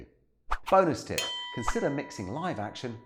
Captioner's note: bell rings